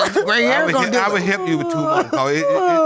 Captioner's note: sobbing